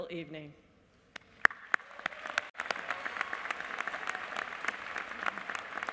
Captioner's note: applause